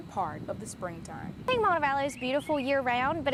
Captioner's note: nat sound:birds